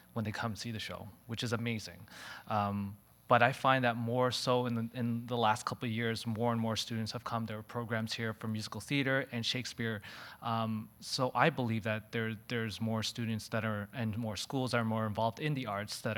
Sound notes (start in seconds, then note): none